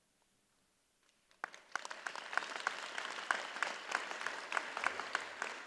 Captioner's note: audience applauds